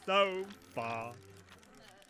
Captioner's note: villagers groan, approach outside